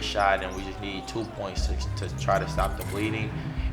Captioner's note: shoes squeaking